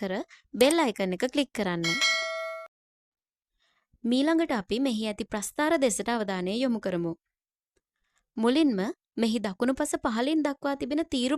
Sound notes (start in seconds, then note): 1.8 bell